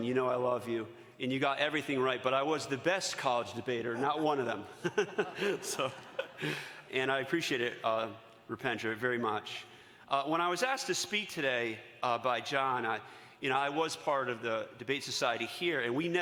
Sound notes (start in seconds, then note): 4.7 laughs